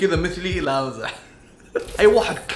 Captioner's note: laughs